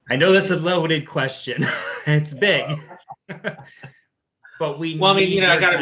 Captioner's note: laughs